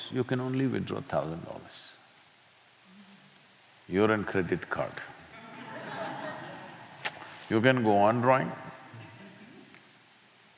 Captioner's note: laughter